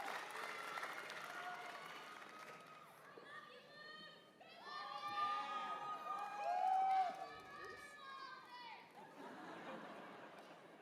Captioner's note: cheers and applause